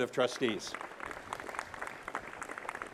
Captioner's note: applause